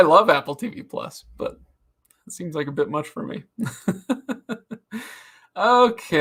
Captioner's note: laughs